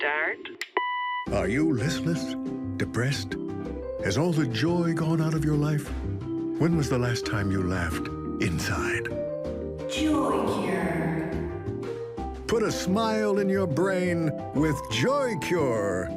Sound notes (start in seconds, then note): 9.5 echoing